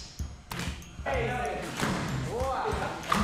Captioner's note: thud